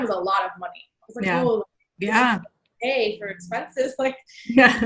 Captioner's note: voice muffled